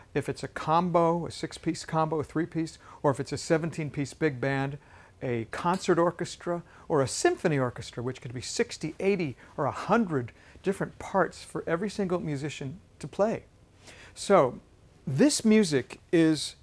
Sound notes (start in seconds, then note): none